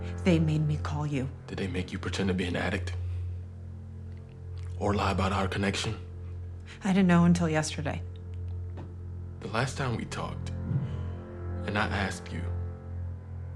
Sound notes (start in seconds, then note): none